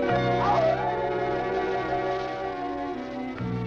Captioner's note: animal howling